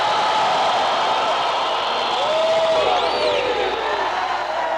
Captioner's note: cheering loudly